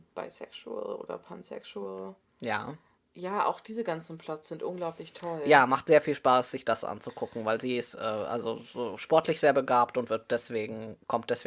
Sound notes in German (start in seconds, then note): none